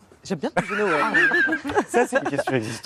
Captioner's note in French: rires